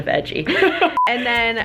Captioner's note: laughing; beeping